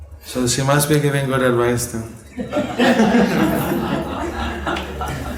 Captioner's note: laughter